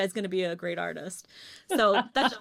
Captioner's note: laughs